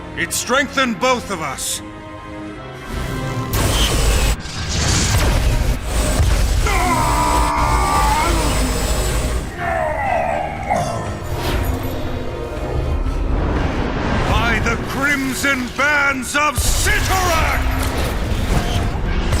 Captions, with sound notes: It strengthened both of us. [ZAPPING] [ELECTRICAL HUMMING] [YELLS] No! By the Crimson Bands of Cyttorak!